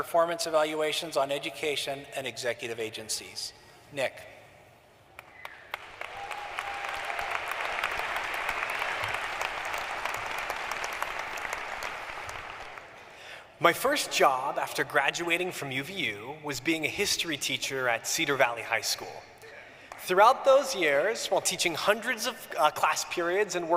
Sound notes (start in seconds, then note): 9.5 applause